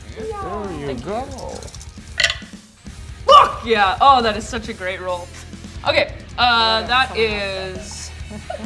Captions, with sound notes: - Thank you. (dice rolls) Fuck yeah! Aw, that is such a great roll. Okay, that is...